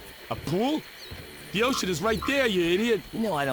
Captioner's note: birds chirping